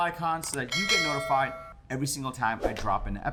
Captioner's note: bell dings